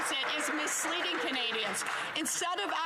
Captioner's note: some Applause